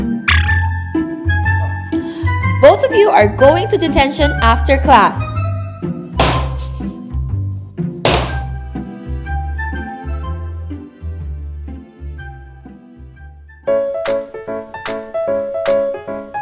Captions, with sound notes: - Both of you are going to detention after class. (ruler tapping) (hand tapping) (quirky suspenseful music) (upbeat music)